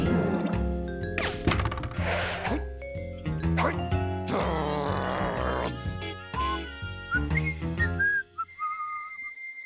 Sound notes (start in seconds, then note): 2.4 grumbles; 4.2 growls; 7.0 whistles